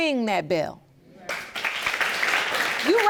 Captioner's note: audience applauding